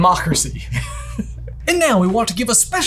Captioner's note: laughs